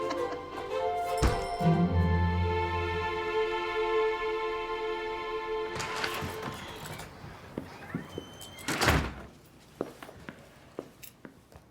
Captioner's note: laughs